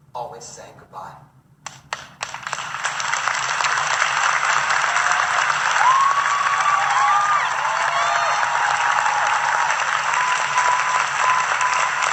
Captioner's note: audience Cheering and Clapping